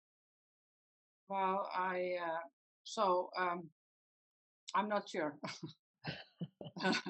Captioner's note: laughs